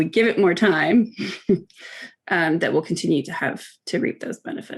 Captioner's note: laughing